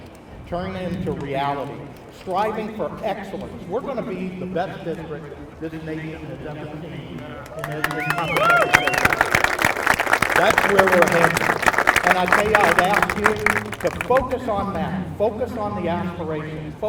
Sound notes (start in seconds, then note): 7.2 applause